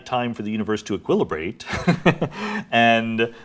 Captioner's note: laughs